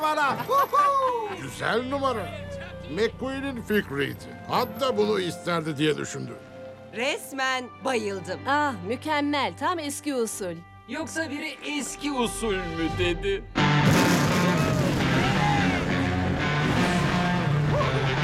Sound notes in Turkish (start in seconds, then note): 13.8 motor kükreme sesi; 17.5 arabalar güler ve bağırır